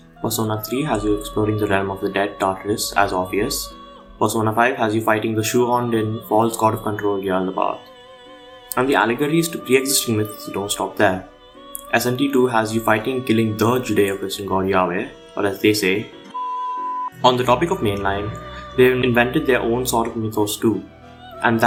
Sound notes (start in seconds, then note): 15.3 distortion sound